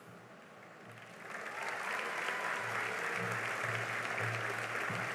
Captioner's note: cheering and applause